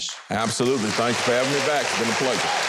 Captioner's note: audience applauding